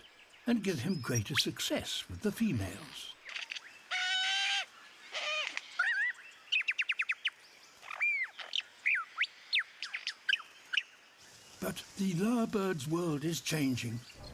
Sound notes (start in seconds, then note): 3.2 hoots, chirps, sings